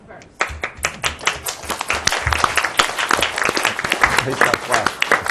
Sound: audience applauds

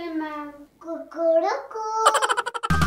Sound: chicken sound

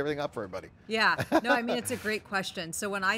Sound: chuckles

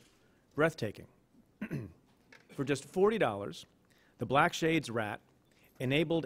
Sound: clears throat

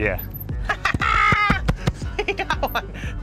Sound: cackling

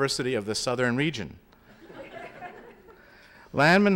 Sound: laughter

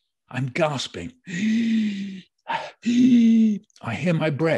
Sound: breathing heavily

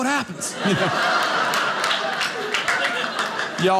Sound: audience clapping

